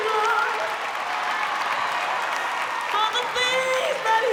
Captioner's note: cheering